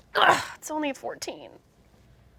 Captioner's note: groans